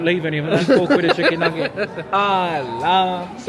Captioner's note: laughing